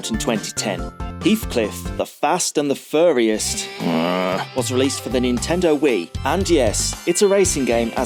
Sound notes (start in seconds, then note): 3.7 groan